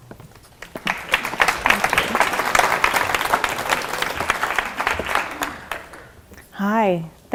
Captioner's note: applause